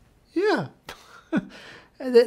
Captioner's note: chuckles